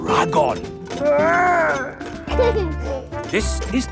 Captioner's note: giggles